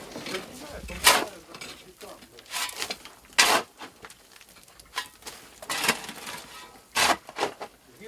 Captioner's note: shoveling coal